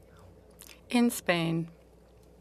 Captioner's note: speaking in French